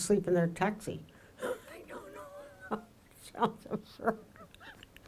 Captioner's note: laughs